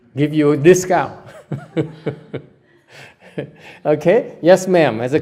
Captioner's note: laugh